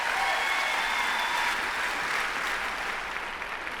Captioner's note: applause